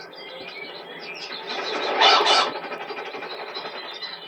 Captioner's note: pheasant screeches